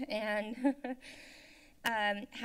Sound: laughs

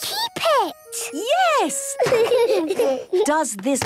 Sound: laughter

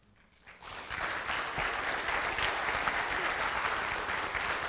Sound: audience applauding

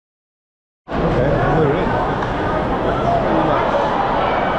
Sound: fans cheering

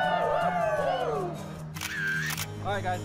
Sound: camera shutter sound

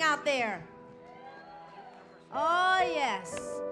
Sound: applause

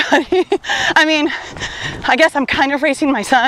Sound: laughs

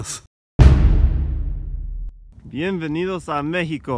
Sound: loud boom

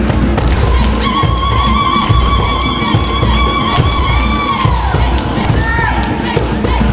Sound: clapping, stomping; ululating shrieks; chanting; clapping, stomping; forceful drumming

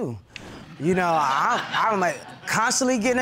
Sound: stutters

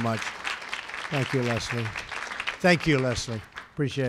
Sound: applause

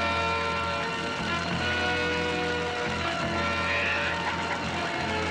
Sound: sirens approaching

